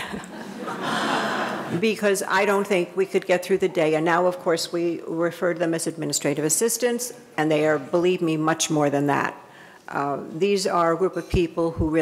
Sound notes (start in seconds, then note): 0.0 laughs; 0.0 audience laughing